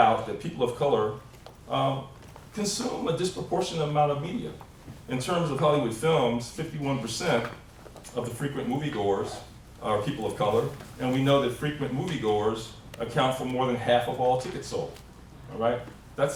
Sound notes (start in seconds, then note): none